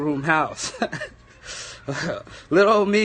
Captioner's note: laughs